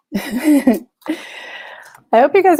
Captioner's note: chuckles